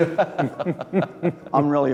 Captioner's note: laughing